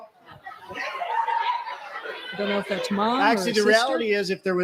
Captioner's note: laughter